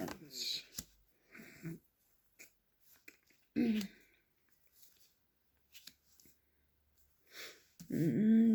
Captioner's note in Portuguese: limpando a garganta